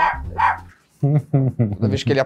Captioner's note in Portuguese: som de latido